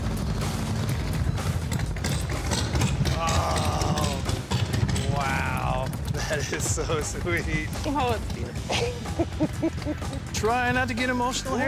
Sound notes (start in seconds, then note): 8.6 laughs